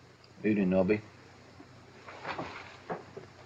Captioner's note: none